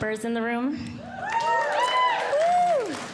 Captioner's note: audience Cheering